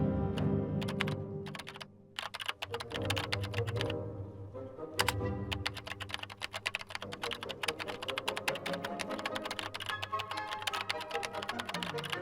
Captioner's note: dramatic Music; keys clicking